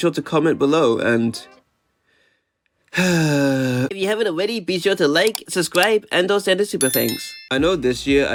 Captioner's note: sigh